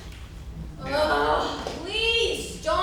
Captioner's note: five groans